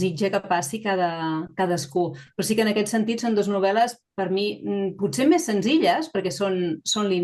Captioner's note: continues speaking in Catalan